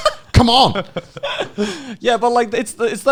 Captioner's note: laughing